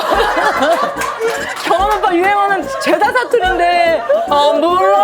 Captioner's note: laughs